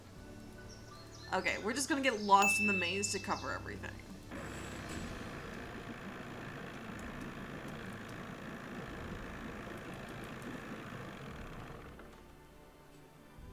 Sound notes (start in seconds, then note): none